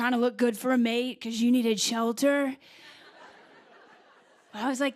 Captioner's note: laughter